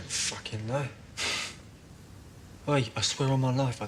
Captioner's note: Robert scoffing